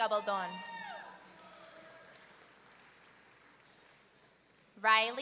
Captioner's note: audience member whooping